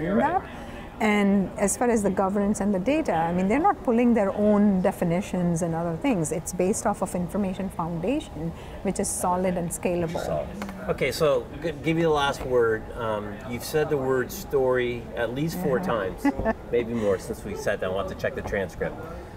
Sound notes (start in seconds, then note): 15.7 laughing